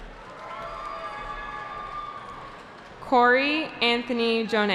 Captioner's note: cheering